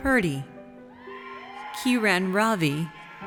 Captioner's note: audience cheers